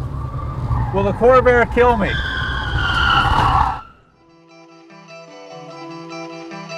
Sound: wheels screeching

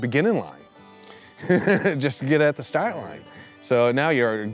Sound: laughs

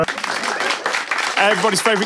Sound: audience Applause

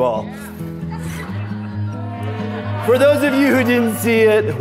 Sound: laughing

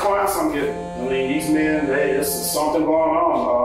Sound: phone buzzing

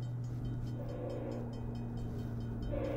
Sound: short, distant honk; longer, closer honk

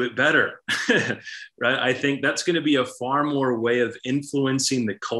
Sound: laughs

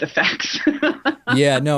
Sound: laughs

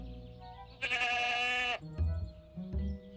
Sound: bleating

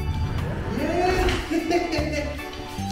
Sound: laughs

